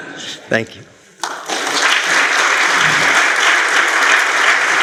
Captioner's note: applause